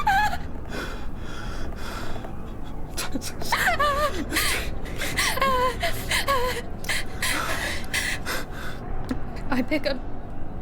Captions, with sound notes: [whispering] Titus... Astraea, please... [Astraea crying] [whispering] Titus... Astraea, please... [Astraea crying] I pick up—